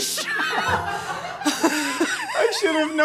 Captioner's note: laughing